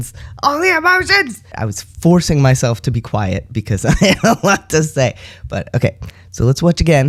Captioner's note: laugh